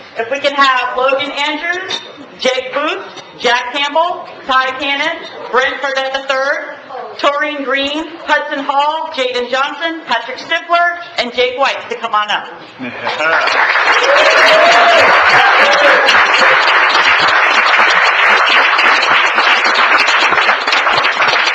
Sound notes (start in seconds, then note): 13.1 applause